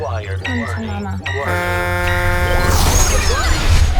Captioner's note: spaceship horn honking